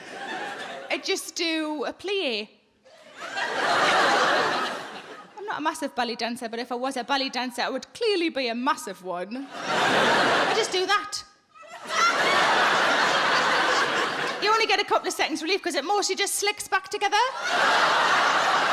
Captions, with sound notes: I just do a plie. I'm not a massive ballet dancer, but if I was a ballet dancer, I would clearly be a massive one. I just do that. (audience laughs) You only get a couple of seconds relief 'cause it mostly just slicks back together.